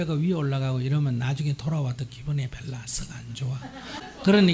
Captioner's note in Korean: 청중 웃음